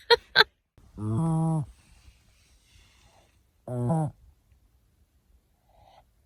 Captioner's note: tiny fog horn sounds twice, which is actually Ollie snoring; snore changes to gentle breathing